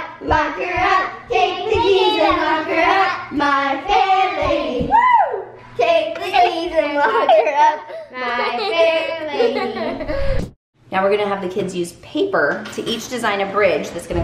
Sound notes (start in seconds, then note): 4.9 cheers; 9.6 giggling